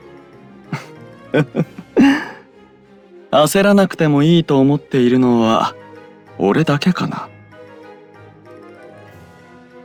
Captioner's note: laugh